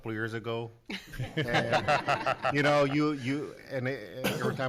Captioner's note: laughing